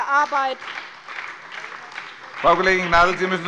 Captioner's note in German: Beifall bei der SPD